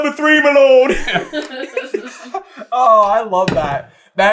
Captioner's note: laughter